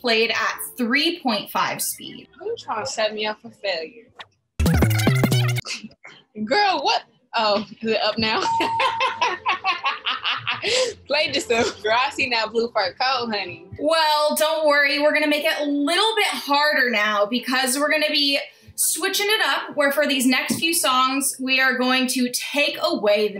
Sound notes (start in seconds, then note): 4.6 sped-up audio; 8.3 ding; 8.8 laughs